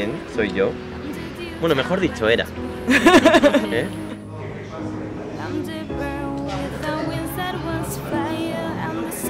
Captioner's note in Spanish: risas